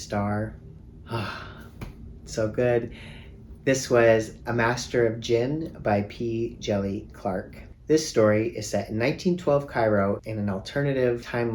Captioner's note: sigh